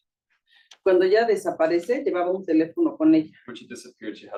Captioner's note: speaking Spanish